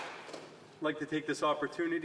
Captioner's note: applause